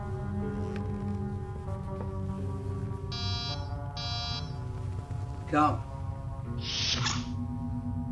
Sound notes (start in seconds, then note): 3.1 door buzz twice